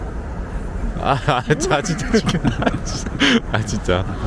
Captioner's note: laughs